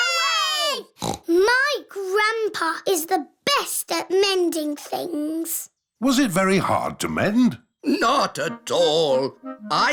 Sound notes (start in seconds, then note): 1.0 snorts